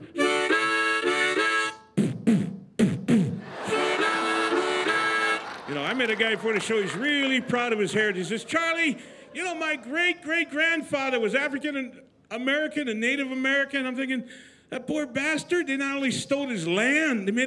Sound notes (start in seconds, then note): 0.0 playing harmonica; 1.8 beatboxing; 2.8 playing harmonica; 3.4 laughter